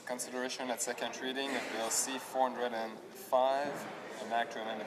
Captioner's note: speaking french